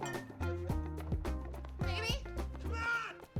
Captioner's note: bottles clink